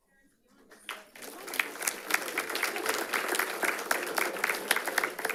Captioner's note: audience applauds